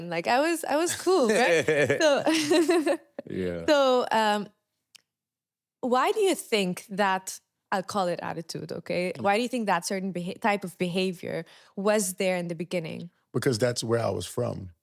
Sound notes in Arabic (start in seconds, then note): 3.2 ضحك